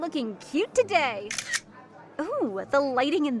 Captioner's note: camera shutter clicks once